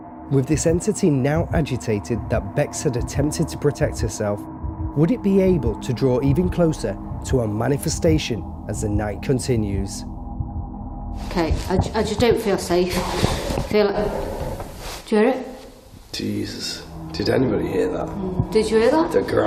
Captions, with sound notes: With this entity now agitated that Bex had attempted to protect herself, would it be able to draw even closer to a manifestation as the night continues? - Okay, I just don't feel safe. (faint growl) I feel-- Do you hear it? - Jesus, did anybody hear that? - Did you hear that? - The growl.